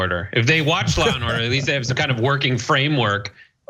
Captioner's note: laugh